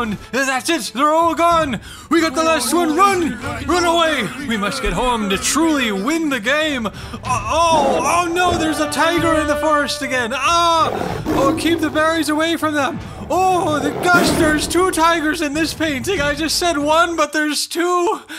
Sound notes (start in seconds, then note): 7.1 tiger growling